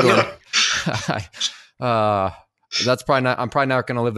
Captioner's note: laughs